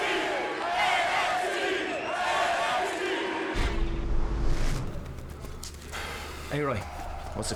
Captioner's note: fans chanting